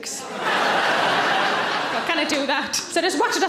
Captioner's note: audience laughing